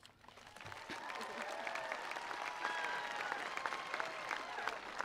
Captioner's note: attendees applauding